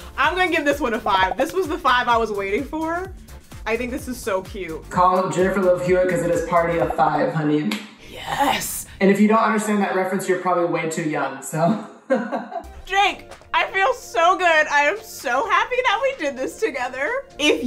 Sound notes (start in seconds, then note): 12.0 laughs